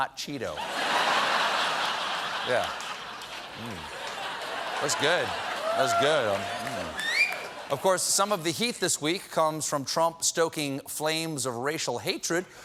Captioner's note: laughter